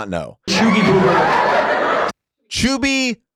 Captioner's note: audience laughs